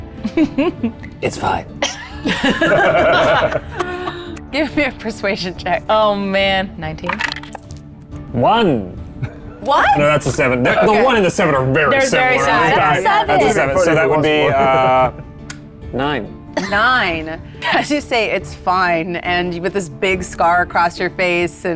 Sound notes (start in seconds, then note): 0.2 laughs; 1.8 group laughs; 7.0 die rattles; 13.4 laughs